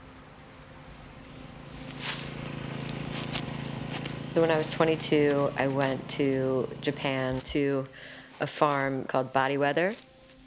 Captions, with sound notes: [grass ripping] [machines roaring] So, when I was 22, I went to Japan to a farm called "Body Weather".